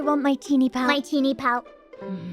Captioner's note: in bot's voice; bot groans